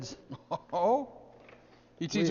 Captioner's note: laughs